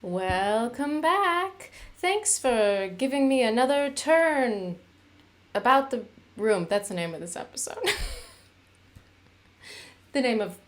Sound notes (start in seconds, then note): 7.8 laughter